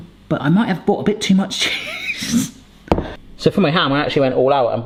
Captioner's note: laughs